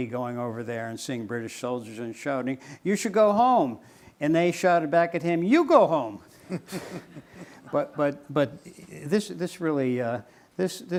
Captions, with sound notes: going over there and seeing British soldiers and shouting "You should go home!" And they shouted back at him "You go home!" (laughing)